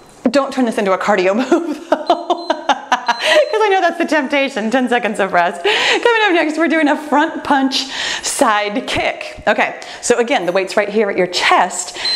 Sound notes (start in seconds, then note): 1.9 laughs; 2.0 timer beeps; 11.8 timer beeps